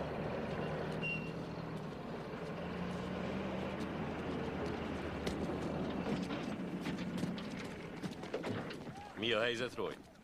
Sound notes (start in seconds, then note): 5.6 engine sputters